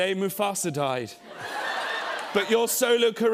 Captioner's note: laughter